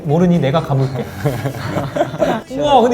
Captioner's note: hahaha